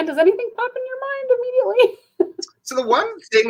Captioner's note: laughter